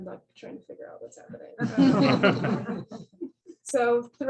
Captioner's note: laughter